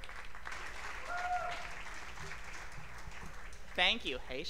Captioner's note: applause